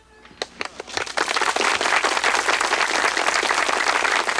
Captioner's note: townsfolk applaud